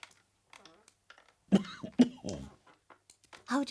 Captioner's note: coughing